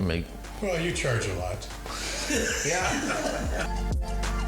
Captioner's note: group laughing